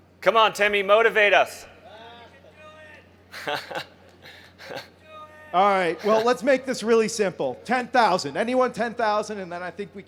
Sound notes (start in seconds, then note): 3.3 laughs